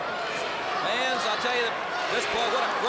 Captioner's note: crowd cheering